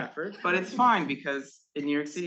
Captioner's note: students chuckling